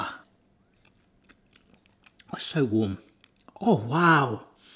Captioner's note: munching